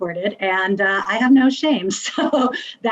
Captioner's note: laughs